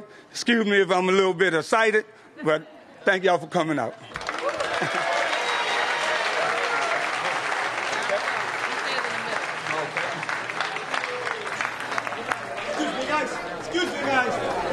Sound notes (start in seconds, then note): 8.5 applause